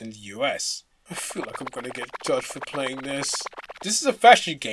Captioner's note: shivering